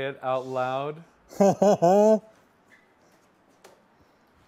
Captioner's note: laughs